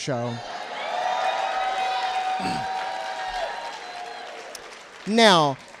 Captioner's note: audience cheers